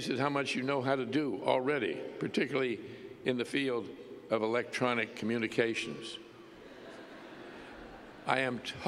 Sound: laughter

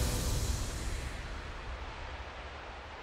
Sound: eerie wind blows

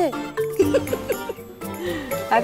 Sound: Ananya laughs

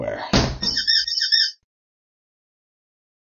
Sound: squeaky squeaky

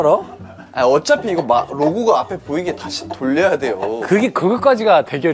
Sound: quietly saying that he's cheating

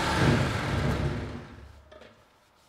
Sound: saw noise ends

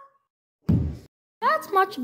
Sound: thump

